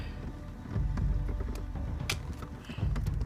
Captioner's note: plastic tie snaps off